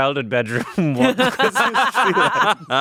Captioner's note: laughing